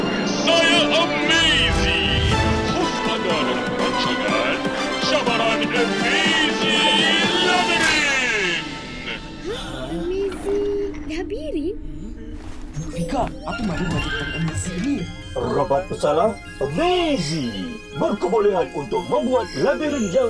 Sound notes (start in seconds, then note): 1.2 music builds up; 7.1 music builds up; 12.5 Mechanizer beeps